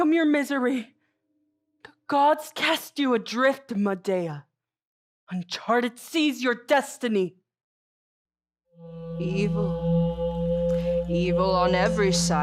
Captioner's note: conch shell horn in distance